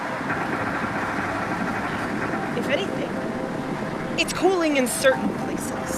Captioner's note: wind blows